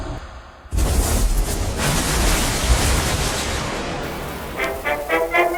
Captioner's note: air whooshing; explosion blasting; legs rasping; upbeat music